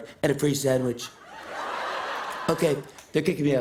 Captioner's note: laughter